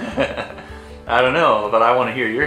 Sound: laughs

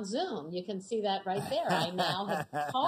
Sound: laughs

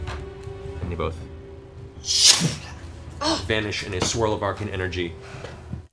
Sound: whoosh

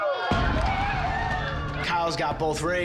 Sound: contestants cheer

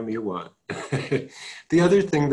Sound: chuckling

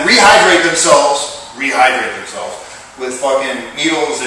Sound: disgusted tone

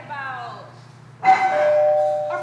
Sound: doorbell rings

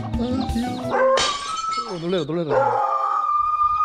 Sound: dog barking

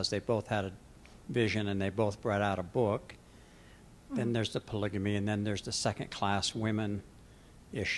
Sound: none

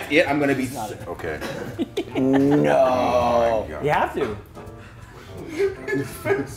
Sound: laugh

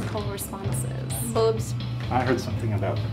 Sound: voiceover

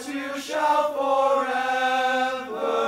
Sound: none

